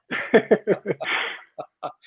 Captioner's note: laughing